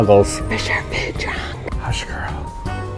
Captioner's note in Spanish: Susurro